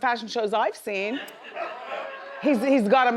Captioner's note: audience laughs